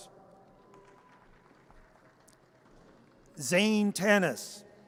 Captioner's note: audience applause